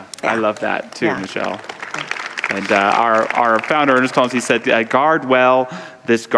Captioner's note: audience applause